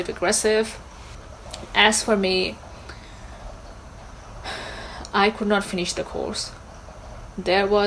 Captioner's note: sighs